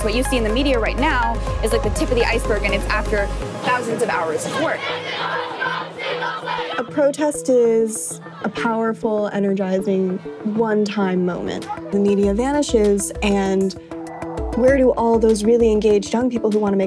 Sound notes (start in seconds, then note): 5.2 crowd chanting